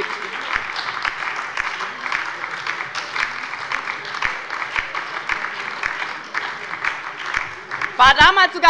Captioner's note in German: Beifall bei der LINKEN und der SPD